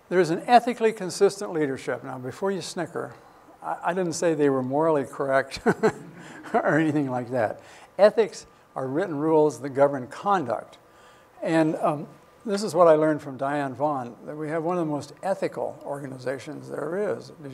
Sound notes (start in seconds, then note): 5.5 chuckles